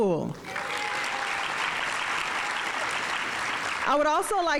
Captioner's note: audience applauding